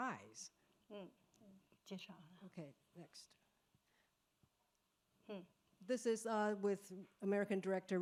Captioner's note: speaking Mandarin